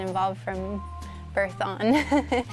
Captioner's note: laughs